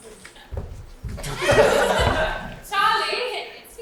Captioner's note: audience laughs